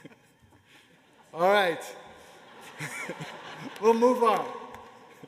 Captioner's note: laughter